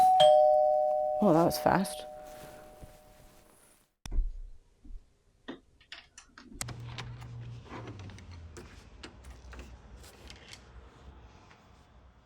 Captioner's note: doorbell rings